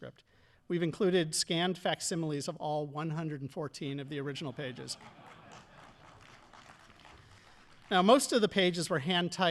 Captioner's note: audience applauding